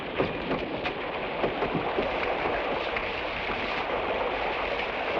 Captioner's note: water splashes